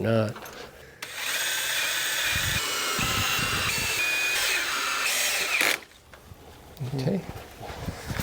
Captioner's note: sawing